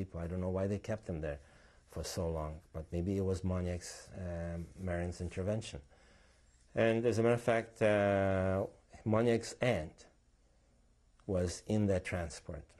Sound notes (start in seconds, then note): 4.2 non-english; 9.1 non-english